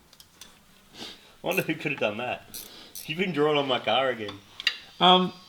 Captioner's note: sacastically